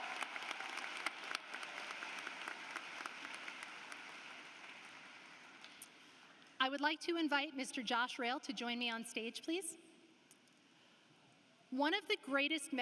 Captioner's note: applause